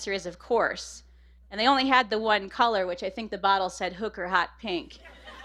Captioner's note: laughter